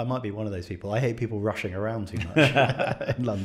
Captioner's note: laughs